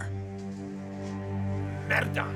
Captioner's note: exclaims in Italian